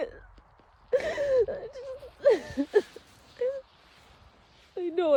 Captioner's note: sobs viscerally, squeaks